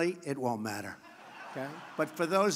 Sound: laughter

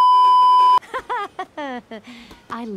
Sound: Pearl laughs

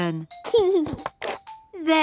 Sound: giggling

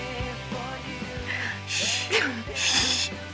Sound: giggles

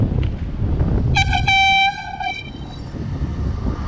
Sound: airhorn

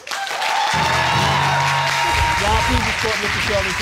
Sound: audience applauding

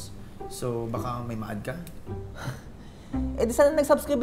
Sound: scoffs

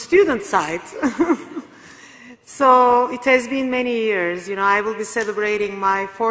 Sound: laugh

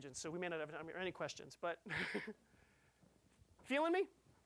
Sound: laughing

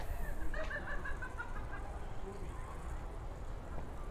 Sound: laughing sound in distance

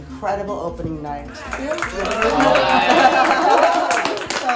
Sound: cheers

